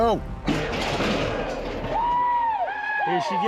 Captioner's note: gates clanking, cowboys shout